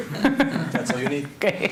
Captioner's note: laughter